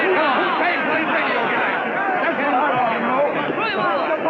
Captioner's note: angry shouting